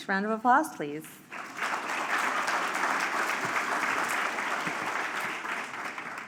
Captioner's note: applause